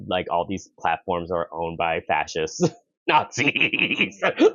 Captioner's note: laughs bitterly